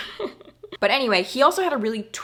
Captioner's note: laughing